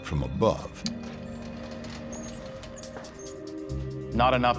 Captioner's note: door creaking